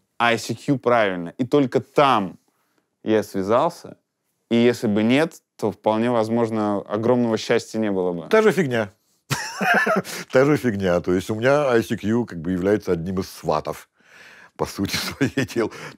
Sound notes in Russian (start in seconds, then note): 9.4 смеется